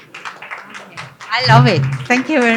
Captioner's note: applause